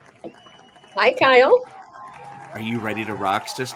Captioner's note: crowd cheers